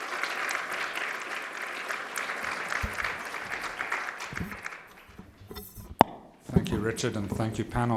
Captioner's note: applause